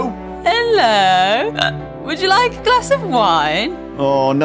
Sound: drunkenly; hic

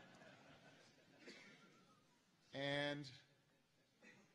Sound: laughter

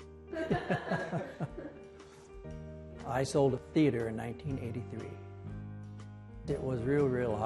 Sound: laughing

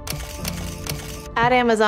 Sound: camera shutter snapping

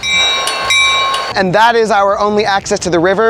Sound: train bell dinging

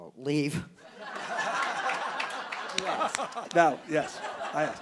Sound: audience laughing

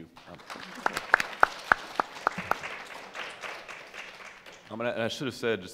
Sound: audience applauding

